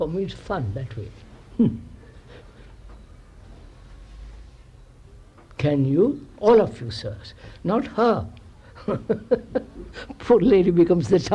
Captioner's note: chuckles